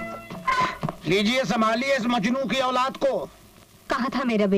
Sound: chair creaks

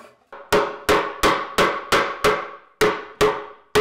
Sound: hammer banging

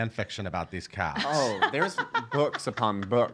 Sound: laughing

